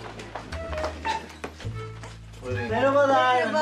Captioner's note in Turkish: Kapı açılma sesi